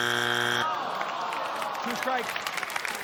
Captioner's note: buzzer sounds